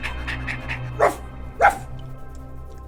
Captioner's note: barking continues